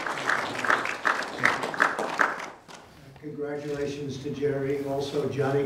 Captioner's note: applause